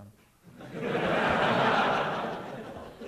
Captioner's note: laughter